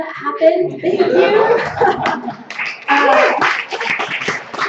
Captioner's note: laughter, applause